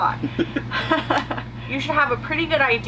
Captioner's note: both laugh